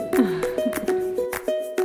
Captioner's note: upbeat music; laughs